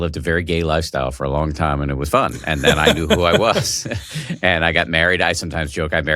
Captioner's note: laughs